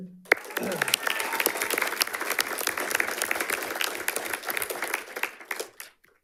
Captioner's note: audience applauding and cheering